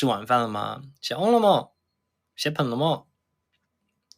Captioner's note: Taining dialect